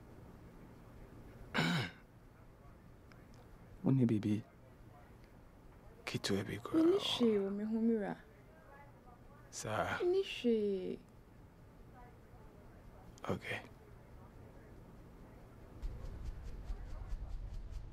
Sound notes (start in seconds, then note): 1.5 clears throat; 15.7 fan whooshing